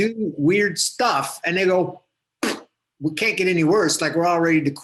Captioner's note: poof